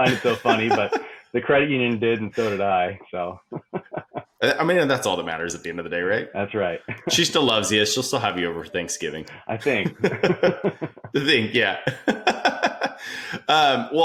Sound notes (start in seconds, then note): 0.0 laughing; 3.2 laughs; 6.9 laughs; 9.6 both laugh; 11.8 laughing